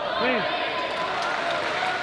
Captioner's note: applause